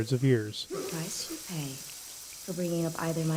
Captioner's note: blood dramatically gushing out